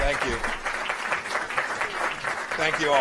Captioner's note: applause